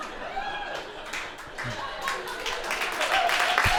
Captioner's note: crowd laughing; crowd cheering